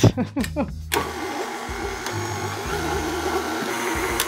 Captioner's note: laughing; mixer whirring